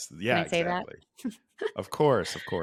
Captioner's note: laughs